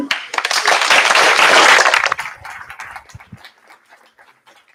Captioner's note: applause